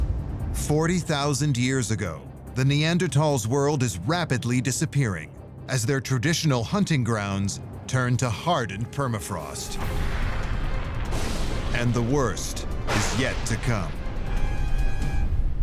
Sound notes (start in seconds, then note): 9.2 ominous music; 9.8 thunder and lightning; 13.9 music climaxes and fades